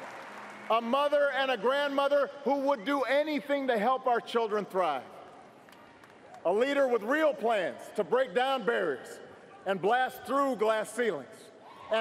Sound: cheers & applause

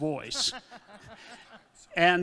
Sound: audience laughing

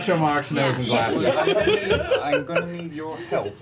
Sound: all laugh

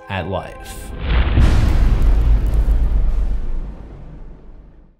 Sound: impact

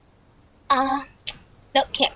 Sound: tsk

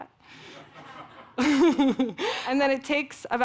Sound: everyone laughs

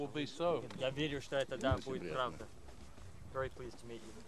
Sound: russian speech

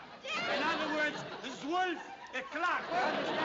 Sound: speaking russian; german

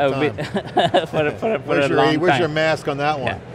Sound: laughs

